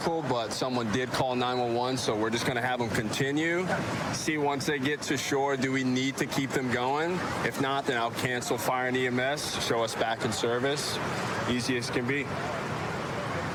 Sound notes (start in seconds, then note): none